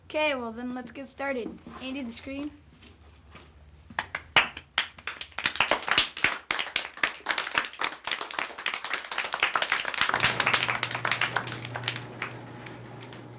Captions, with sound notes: - Okay, well then let's get started. Andy, the screen? (audience applauding)